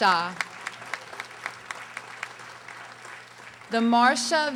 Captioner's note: audience applauding